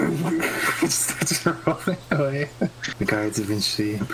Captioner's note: laughing